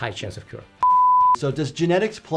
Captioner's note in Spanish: suena un pitido